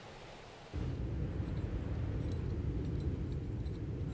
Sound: high winds, bad weather

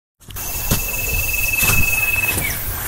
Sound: footsteps

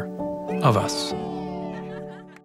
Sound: laughs

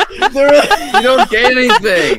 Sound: wheeze

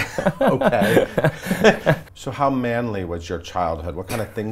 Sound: laughs

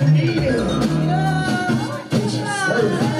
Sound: moaning

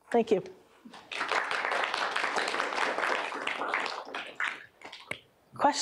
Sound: applause

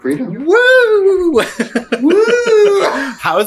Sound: Katya laughs

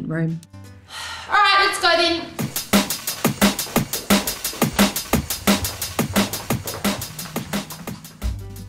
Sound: sigh

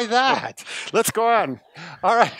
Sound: laughs

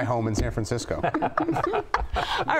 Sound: laughter

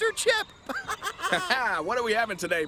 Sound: laughs

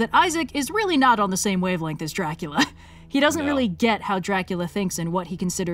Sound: laughs

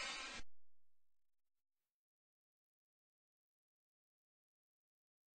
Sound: silence

